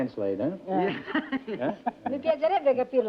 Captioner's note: laughter; speaking italian